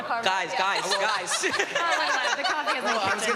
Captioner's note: laughing